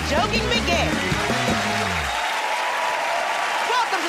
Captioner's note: cheers and applause